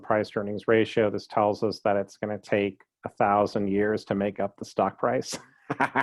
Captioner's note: laughing